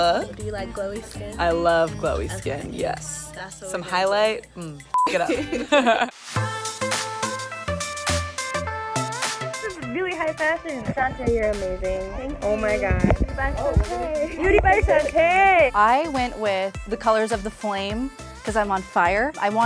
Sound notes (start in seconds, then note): 4.9 beep; 5.3 laughs; 6.6 upbeat music; 15.3 snaps fingers